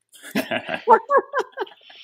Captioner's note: laughing